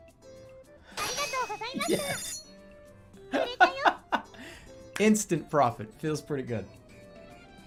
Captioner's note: laughing